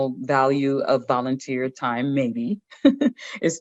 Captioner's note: chuckles